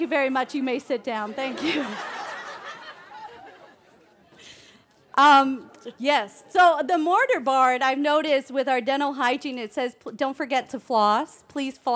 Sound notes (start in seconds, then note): 1.4 laughing; 3.1 laughter